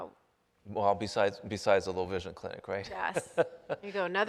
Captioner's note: laughs